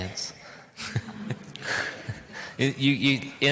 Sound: laughs

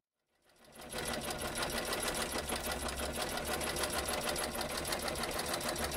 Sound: whirring sound of treadle machine operating

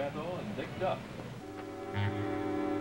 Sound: voice over plays back

